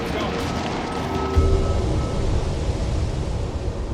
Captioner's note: wind gushing; dramatic music